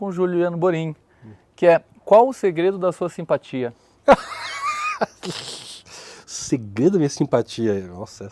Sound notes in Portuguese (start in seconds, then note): 4.0 risos